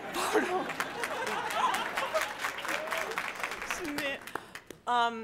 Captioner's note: laughter